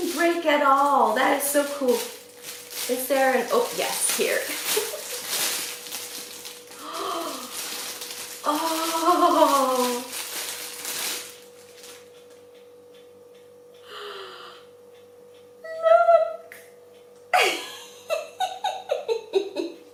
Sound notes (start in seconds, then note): 4.7 laughs; 7.1 gasps; 8.9 laughs